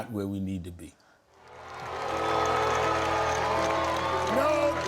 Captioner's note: cheers and applause